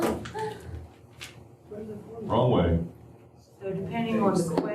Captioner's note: laughter